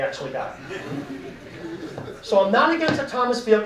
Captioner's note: audience laughing